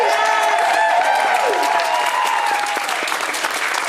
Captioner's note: audience cheering